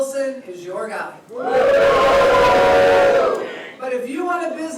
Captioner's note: jeering